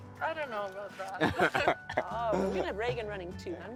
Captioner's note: both laughing